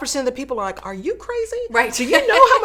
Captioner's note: laughs